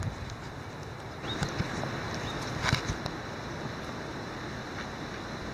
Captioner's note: birds singing